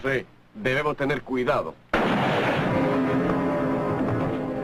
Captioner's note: gunshot